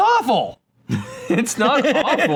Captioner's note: laughs